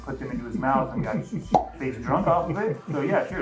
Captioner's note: pop